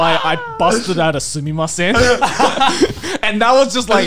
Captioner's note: foreign language